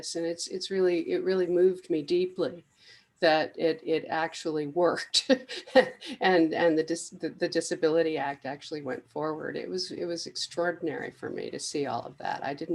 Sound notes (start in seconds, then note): 5.2 laughs